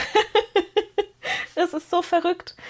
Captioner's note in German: gelächter